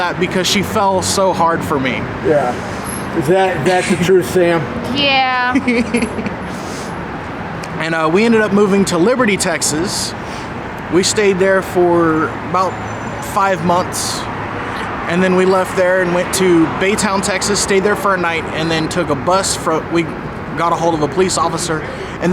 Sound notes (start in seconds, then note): 5.5 laughs